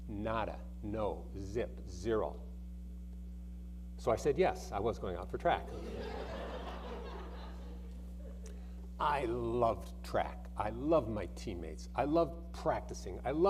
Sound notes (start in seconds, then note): 5.7 audience laughing